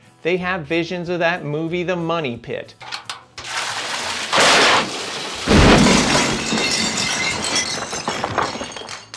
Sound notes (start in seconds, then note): 3.4 water splashes; 5.6 glass breaking